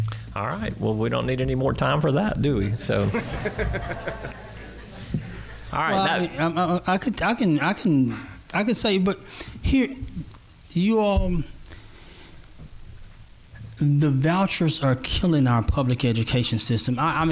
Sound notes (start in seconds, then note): 2.8 laughter